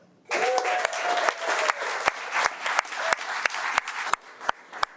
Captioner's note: audience applauding